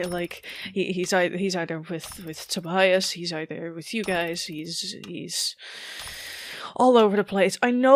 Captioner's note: shaky breath